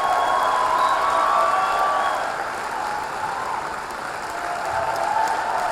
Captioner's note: audience cheering